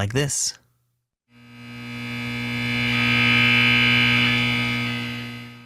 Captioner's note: buzzing